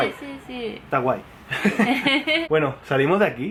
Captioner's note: both giggle